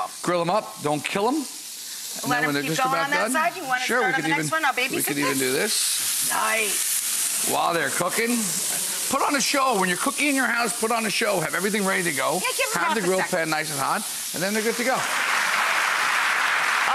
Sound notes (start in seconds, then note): 6.3 grill sizzles; 14.6 audience applauds